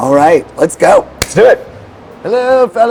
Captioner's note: hands tapping